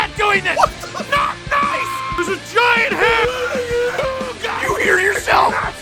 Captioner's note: screaming; Harry potter screaming